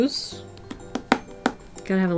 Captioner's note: tapping